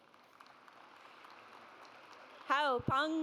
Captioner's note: audience applauds